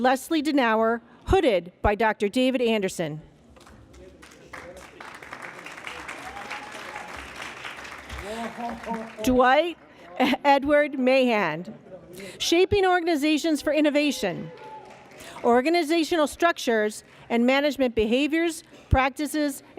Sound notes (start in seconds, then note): 3.6 applause